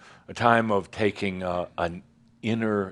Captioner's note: none